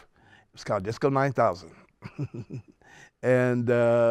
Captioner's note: laughs